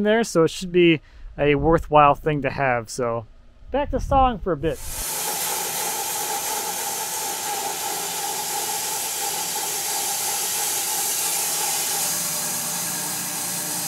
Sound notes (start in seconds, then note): 4.9 saw whirs